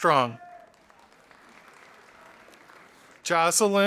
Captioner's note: audience applauding